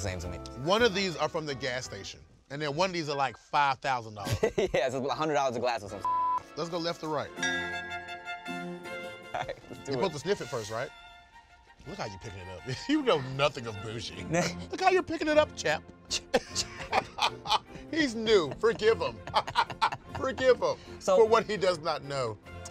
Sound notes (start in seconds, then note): 6.0 beep; 16.1 laughs